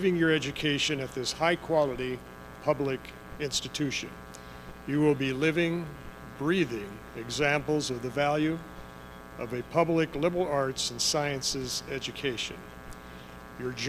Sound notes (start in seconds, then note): none